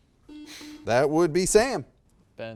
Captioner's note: buzzer beeps beeps